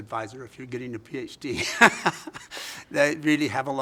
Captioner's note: laughs